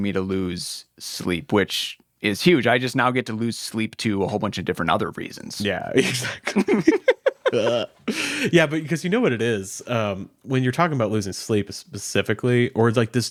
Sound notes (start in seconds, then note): 6.0 both laughing